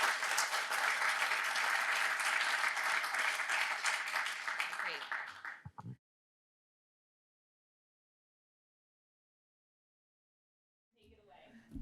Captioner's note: applause